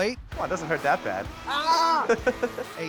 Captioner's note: laughing